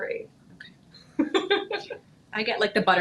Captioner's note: laughing